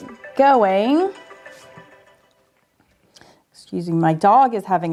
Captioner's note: phone ringing